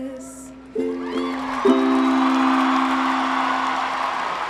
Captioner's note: audience cheering